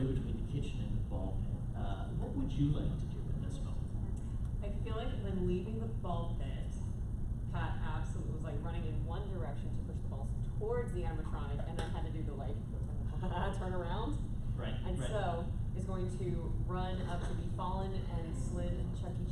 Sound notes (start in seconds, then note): none